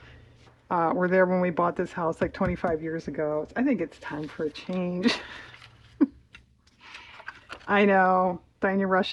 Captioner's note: laughs